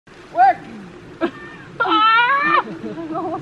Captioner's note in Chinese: 慘叫